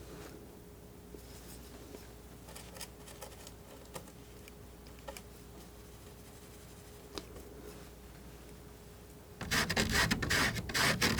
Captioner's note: scratching